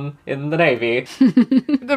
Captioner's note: laughs